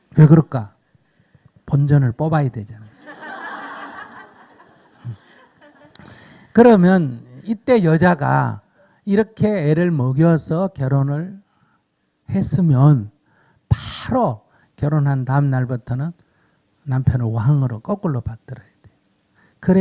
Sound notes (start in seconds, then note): 2.9 audience Laughter